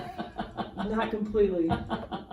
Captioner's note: laughs